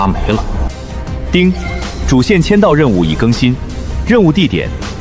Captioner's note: ding!